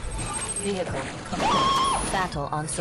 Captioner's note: Marv scream